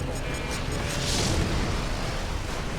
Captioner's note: explosion